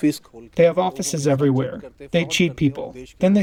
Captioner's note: through translator